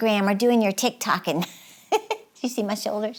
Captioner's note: giggles